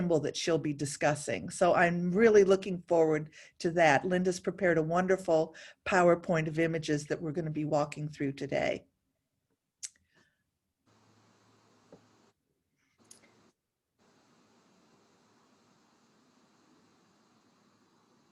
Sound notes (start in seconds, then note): 10.8 air blowing